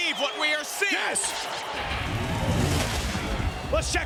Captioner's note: scene swooshing